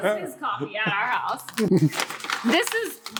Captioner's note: package rustling